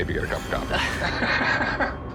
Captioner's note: both laugh